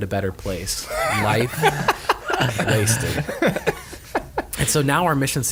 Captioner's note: laughing